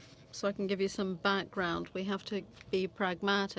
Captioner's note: speaking French